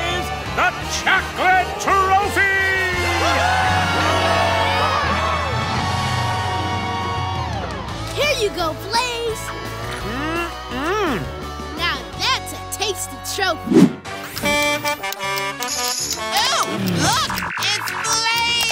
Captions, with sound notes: the chocolate trophy! [cheering] Here you go Blaze! -Mm hmm! -Now that's a tasty trophy! Oh, look, it's Blaze!